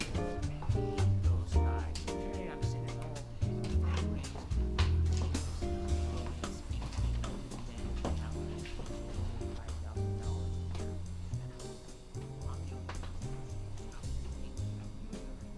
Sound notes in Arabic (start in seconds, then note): 0.1 موسيقى هادئة; 2.7 الناس يتحدثون